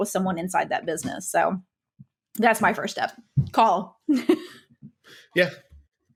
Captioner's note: laughs